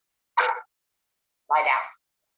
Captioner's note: dog barks